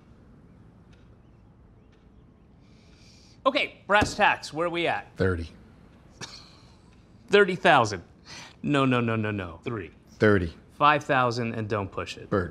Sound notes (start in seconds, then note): 6.1 laughs